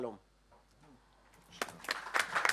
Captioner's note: applause